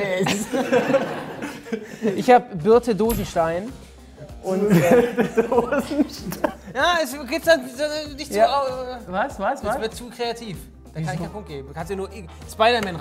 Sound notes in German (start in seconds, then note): 0.9 lachend; 4.5 Lachen; 5.6 lachend; 7.4 Stammeln